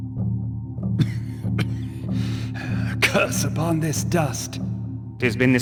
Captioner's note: coughs